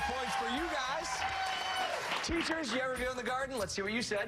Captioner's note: cheers and applause